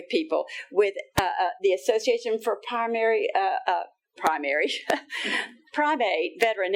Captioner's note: laughing